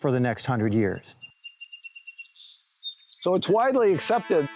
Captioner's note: birds singing